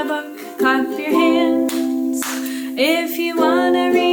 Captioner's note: clapping